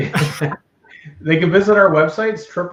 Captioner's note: laughter